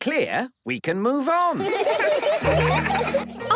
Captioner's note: laughter